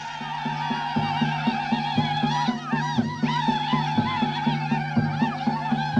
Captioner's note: whooping